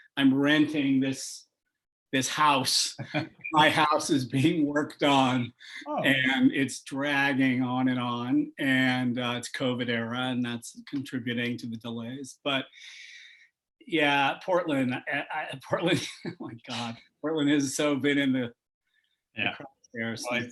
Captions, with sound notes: I'm renting this house. My house is being worked on and it's dragging on and on. And it's COVID era, and that's contributing to the delays. But, yeah, Portland-- Portland [CHUCKLES] My God. Portland has so been in the crosshairs.